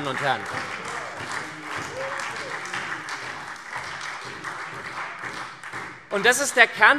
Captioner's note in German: Beifall SPD